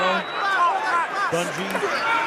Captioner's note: whistle